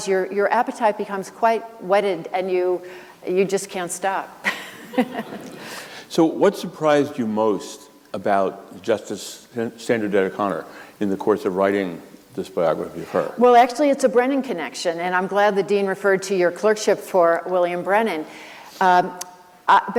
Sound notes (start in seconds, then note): 4.5 laughs